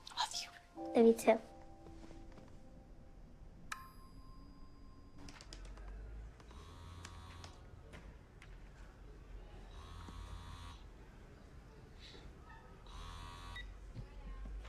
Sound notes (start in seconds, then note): 6.5 phone vibrating; 13.0 phone vibrating beeping